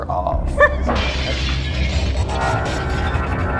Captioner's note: ominous music continues; glass shatters